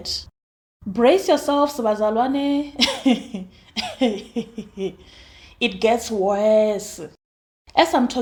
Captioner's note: laughs